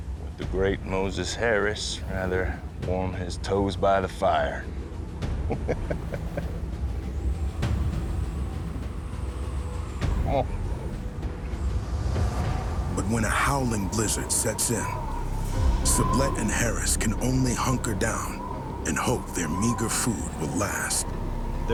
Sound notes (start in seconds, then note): 5.4 moses chuckles; 7.0 wind howling